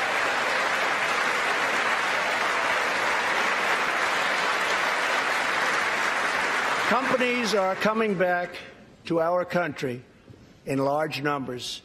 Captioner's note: applause